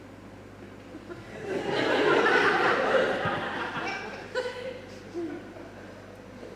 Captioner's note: audience Laughs